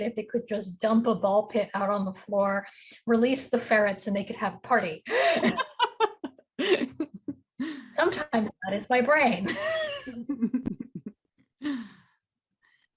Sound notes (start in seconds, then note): 5.1 laughing; 5.1 chuckles; 9.5 chuckles; 9.5 chuckling